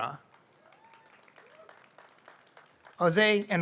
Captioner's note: audience applauds